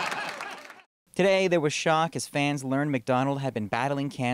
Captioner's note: laughter